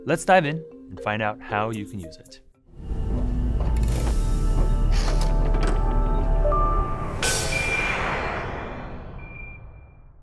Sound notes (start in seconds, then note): 3.7 mechanical sounds; 6.4 swoosh